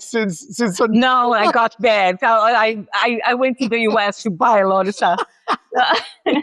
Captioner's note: laughs